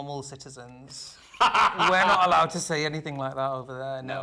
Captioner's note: laughing